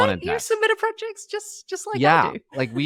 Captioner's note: laughing